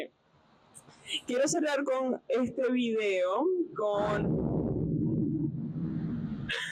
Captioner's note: thunder